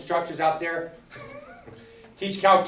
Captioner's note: chuckles